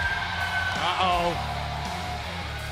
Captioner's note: cheers & applause